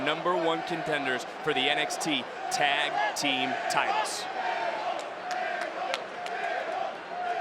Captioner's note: crowd chanting